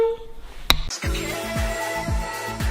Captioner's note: hand slaps